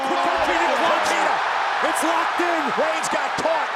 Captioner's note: crowd cheers